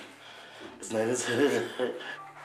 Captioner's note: laughs